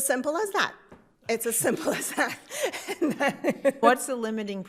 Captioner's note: laughs